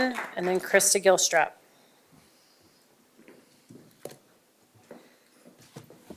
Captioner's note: applause